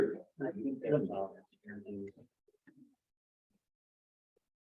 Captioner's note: members chattering